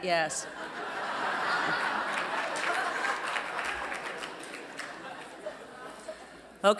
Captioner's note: laugher